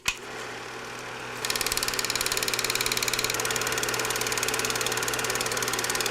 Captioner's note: sound of Film Projector